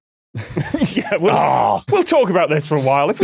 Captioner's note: snickers